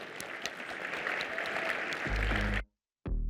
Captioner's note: applause